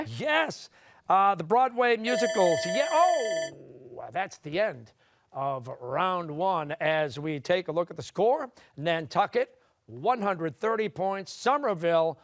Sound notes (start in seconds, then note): 2.1 bell ringing